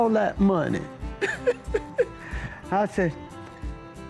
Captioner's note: laughing